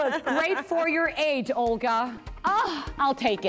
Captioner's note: laughter